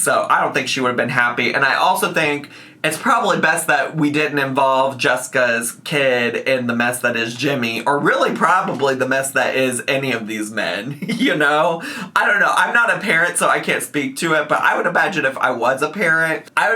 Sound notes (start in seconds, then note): 10.8 laughs